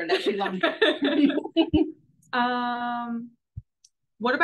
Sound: both laugh

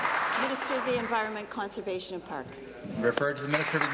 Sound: applause

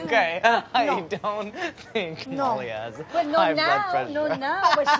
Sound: laughs

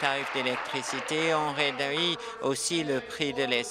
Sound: applause

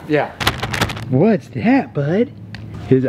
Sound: plastic bag crinkles

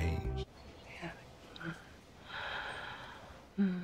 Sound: sighs softly

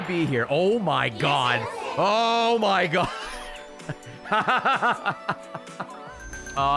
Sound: laughs

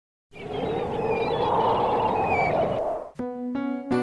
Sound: wind howling; seagulls cawing; soft music

